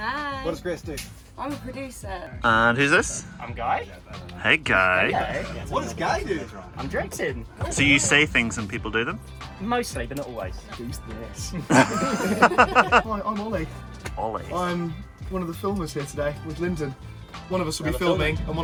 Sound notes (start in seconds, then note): 11.4 all laughing